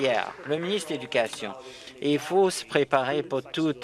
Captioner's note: applause